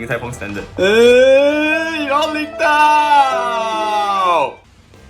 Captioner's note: upset noises